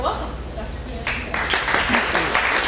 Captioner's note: applause